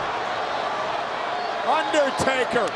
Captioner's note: audience cheers